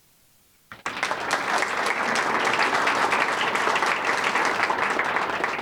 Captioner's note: audience applauding